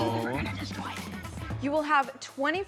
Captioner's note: overlapping chatter